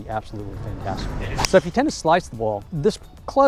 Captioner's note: golf club smacking